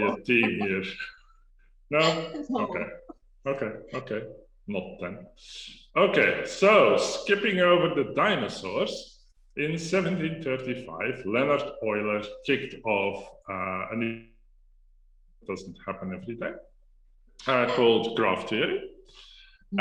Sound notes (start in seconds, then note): 0.0 laughs